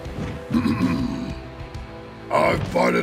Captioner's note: clears throat